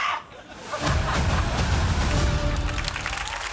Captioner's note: studio audience laughs; studio audience cheers, applauds